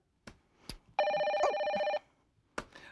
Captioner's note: phone rings